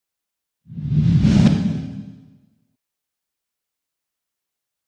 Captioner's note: air swooshing